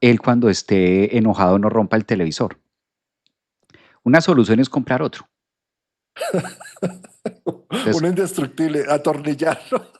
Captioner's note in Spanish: risas